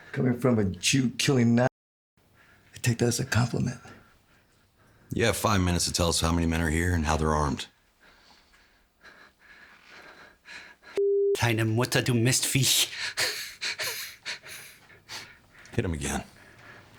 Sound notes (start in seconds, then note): 11.0 officer speaking German; 13.1 officer laughing